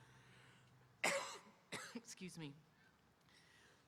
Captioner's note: coughs